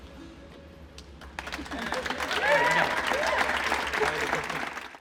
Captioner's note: audience applauds